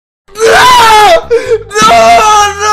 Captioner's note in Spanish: Sollozo furro